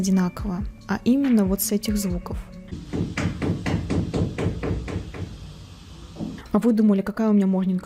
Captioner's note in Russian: звуки стука молотка сверху